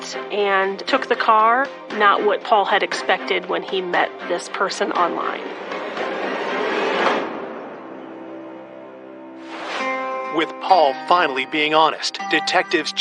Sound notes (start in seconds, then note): 9.3 air whooshing